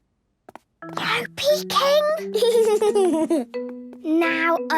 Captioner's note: whispering; Danny giggling